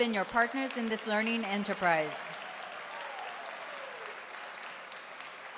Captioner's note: applase